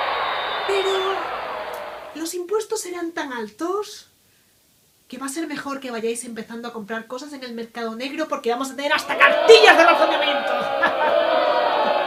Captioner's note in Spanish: Abucheos